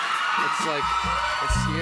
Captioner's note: cheers and applause